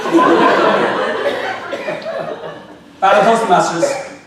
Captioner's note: audience laughing